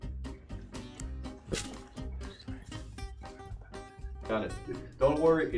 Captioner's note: whispers